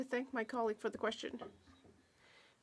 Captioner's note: speaking French